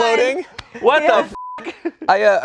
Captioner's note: everyone laughing; beep